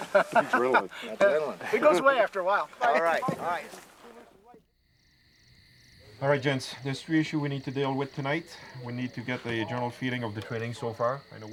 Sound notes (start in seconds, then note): 0.0 laughter; 3.0 laughs; 6.3 voiceover